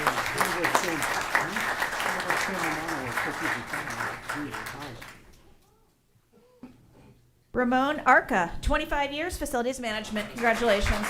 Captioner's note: applause